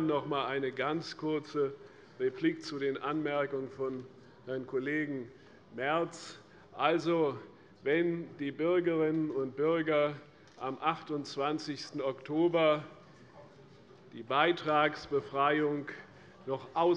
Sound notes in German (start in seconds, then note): none